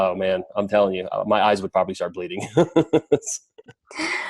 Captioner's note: laughs